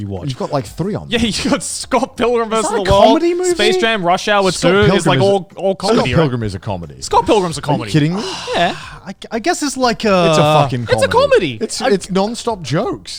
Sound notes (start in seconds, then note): 8.1 sighs